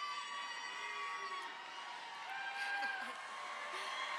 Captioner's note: all applauding